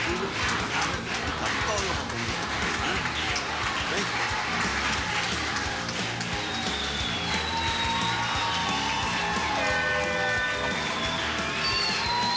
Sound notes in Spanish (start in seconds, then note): 1.8 Aplausos